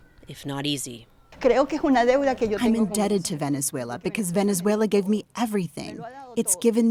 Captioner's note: through translator